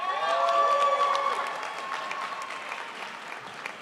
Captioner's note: crowd applauds